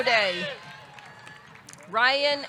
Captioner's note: audience cheering; audience clapping